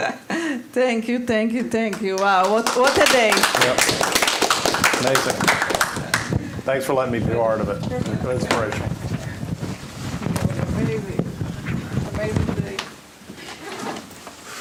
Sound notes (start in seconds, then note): 0.0 laughter; 5.0 applause; 10.8 indistinct conversation